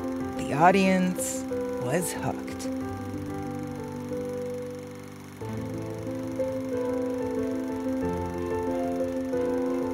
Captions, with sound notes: The audience was hooked. (reel grinding) (soft music)